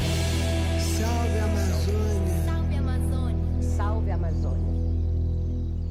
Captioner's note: various voices